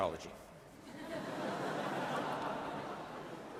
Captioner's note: laughing